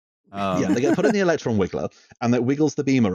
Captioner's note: happy laugh